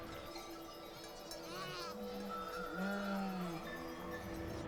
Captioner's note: goats vocalizing